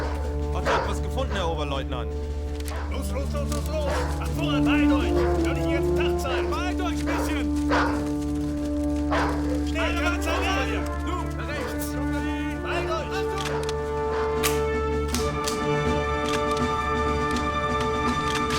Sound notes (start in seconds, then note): 0.2 speaking german; 7.6 dog barking; 12.5 speaking german; 13.0 rifles cocking